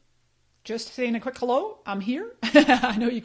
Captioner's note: laughs